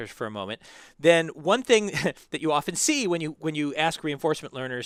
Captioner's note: laugh